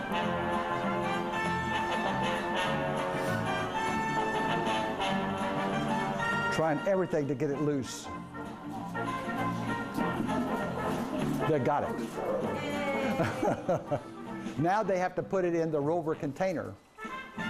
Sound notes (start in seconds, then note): 12.1 laughs